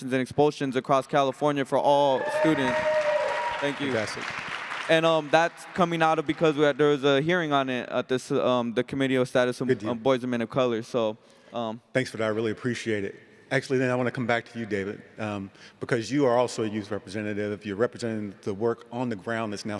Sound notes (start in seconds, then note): 2.0 cheering